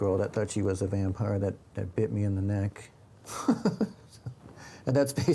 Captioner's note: laughs